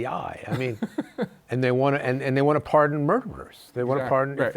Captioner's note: chuckles